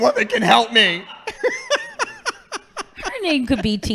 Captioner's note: laughing